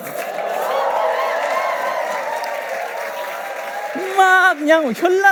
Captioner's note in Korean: 박수와 환호